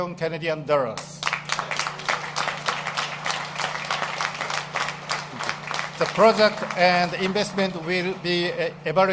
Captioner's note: applause